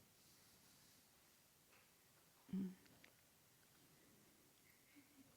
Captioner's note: silence